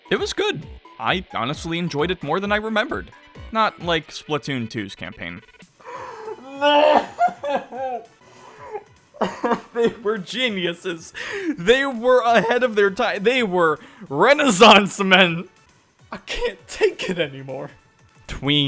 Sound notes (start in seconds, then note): 8.2 gasp; 8.6 flabberghasted laughter